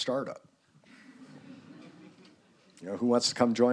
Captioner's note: students laughing